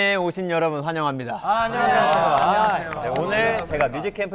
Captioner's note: everyone claps